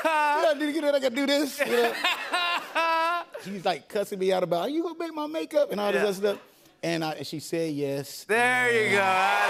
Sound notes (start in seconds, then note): 1.4 laughter